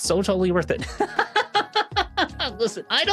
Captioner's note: laughs